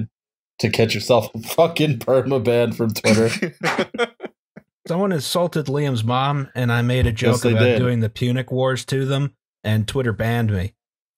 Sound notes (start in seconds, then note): 3.0 laughter